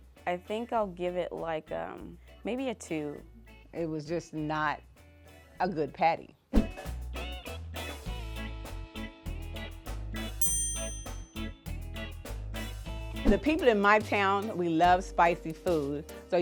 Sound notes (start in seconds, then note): 6.6 upbeat music; 10.4 dinging; 12.9 upbeat music